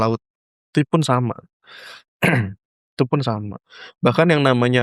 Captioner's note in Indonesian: berdehem